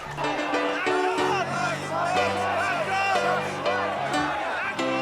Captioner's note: chanting